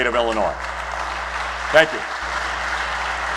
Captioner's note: applause